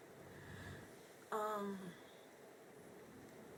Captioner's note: takes deep breath